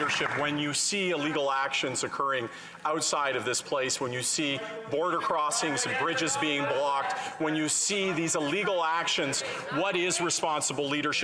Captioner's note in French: voix de l'interprète